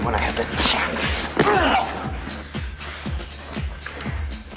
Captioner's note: grunts